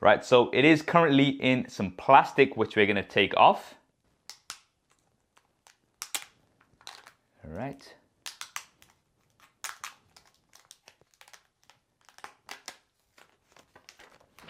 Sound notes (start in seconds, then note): 4.6 plastic rattling